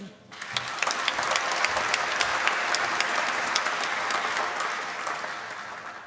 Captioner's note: applause